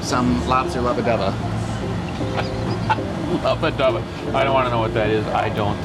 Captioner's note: laughing